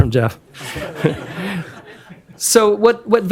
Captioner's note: laughter